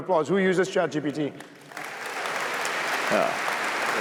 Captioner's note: applause